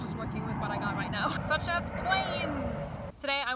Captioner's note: plane noise